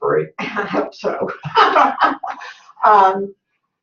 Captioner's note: laughs